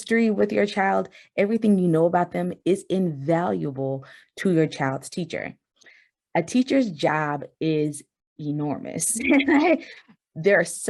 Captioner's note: laughs